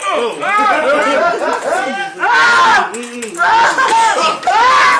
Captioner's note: all laughing